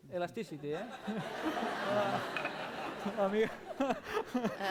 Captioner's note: laughter